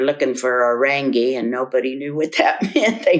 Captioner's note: laughs